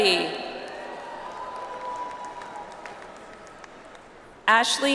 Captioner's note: audience applauds